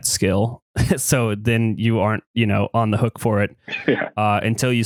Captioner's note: laughs